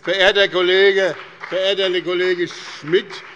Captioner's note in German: Beifall bei dem BÜNDNIS 90/DIE GRÜNEN und der CDU